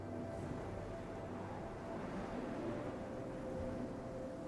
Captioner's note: wind rustling